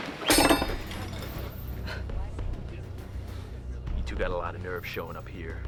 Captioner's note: clattering; dramatic music